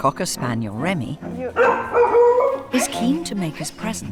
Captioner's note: Remy barking